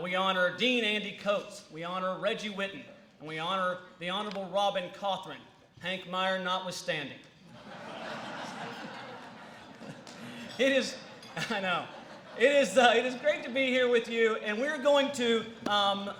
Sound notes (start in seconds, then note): 7.4 laughter